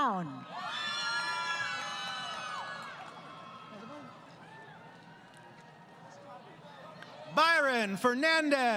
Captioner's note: crowd Cheering